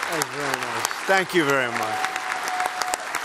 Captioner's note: applause